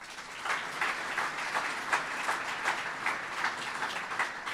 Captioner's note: audience applauds